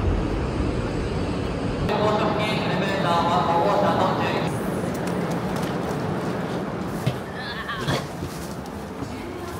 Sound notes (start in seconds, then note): 1.8 announcer speaking in Japanese